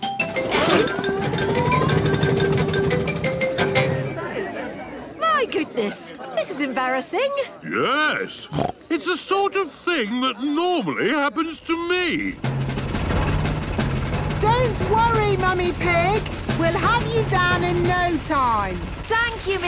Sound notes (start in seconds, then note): 3.8 all murmuring; 8.4 snorts